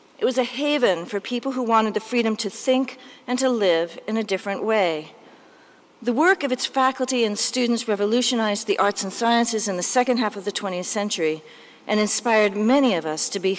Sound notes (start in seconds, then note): none